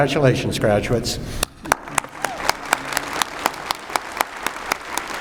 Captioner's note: applause